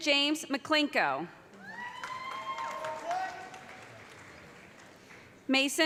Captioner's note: cheers and applause